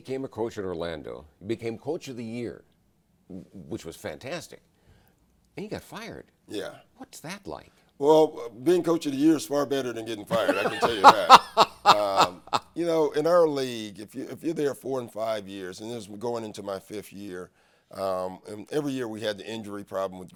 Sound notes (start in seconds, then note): 13.0 laughs